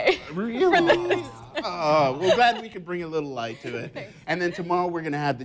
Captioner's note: laughs